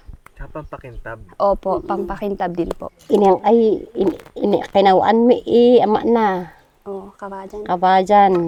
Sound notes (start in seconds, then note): 3.0 speaks in local dialect